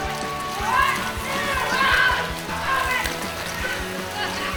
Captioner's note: Ezra screaming